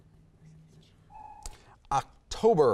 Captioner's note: timer buzzes